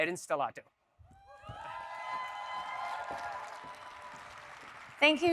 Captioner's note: audience cheering